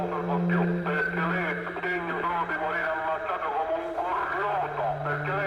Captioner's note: speaking in foreign language